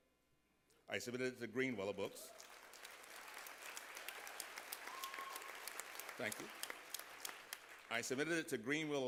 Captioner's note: applause